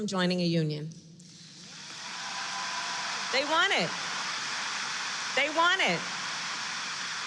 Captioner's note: applause